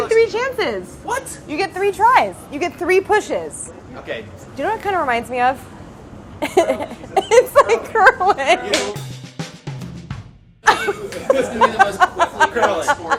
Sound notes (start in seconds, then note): 6.4 laughing; 8.6 upbeat jazzy music; 10.6 laughing